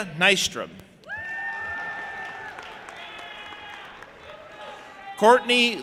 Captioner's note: audience applauding and cheering